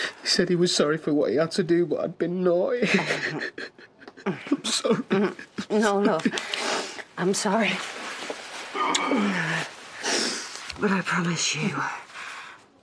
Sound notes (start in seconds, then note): 2.7 Chas makes a noise of disgust; 8.7 Aaron sobs